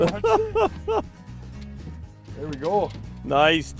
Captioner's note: laughing